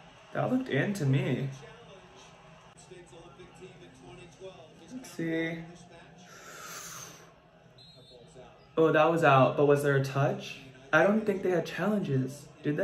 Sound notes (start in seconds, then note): 6.2 heavily breaths